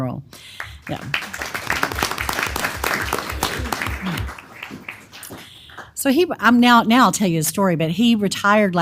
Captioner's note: applause